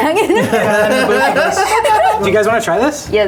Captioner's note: chefs laughing